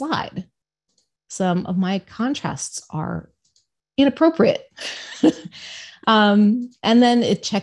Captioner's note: laughs